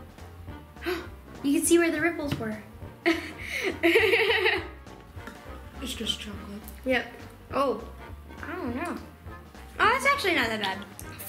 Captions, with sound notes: (gasps) You can see where the ripples were. (laughing) - It's just chocolate. - Oh yeah. Oh, that's actually not that bad.